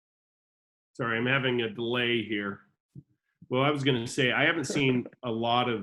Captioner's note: laughs